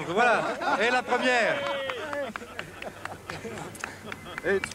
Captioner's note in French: rires et applaudissements